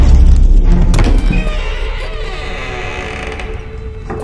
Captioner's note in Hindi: दरवाजे की चरमराहट